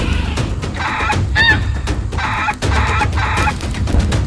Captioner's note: dinosaur squawking continues; dramatic drum music continues